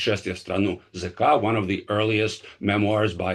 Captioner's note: speaking in a foreign language